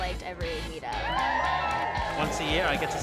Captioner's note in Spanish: multitud aplaude